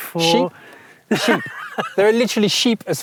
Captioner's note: laughs